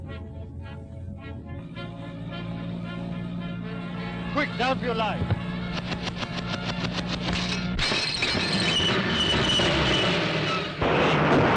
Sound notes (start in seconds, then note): 5.7 gun firing; 7.8 glass breaking; 8.7 brakes squealing; 11.3 car crashing